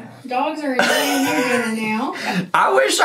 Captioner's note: laughs